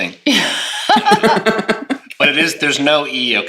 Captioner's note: laughs